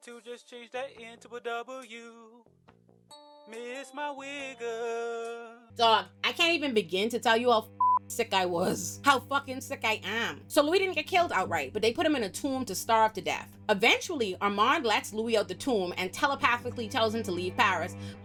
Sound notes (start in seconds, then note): 7.8 beep